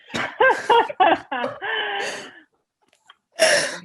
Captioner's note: laughing